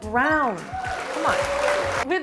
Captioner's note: crowd applauding